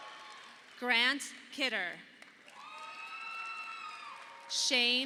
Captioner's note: audience applauding